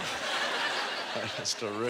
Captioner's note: audience laughter